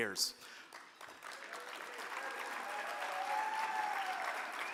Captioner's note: crowd cheering